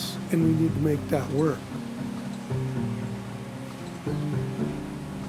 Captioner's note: machinery whirring